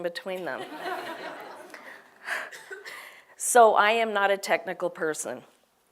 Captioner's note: laugh